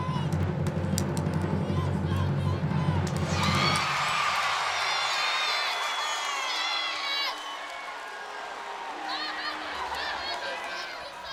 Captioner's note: crowd chatter